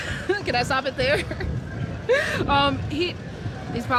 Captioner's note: laughs